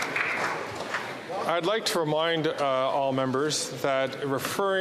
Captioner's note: applause